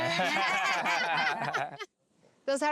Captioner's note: laughs